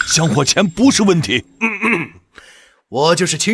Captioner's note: ahem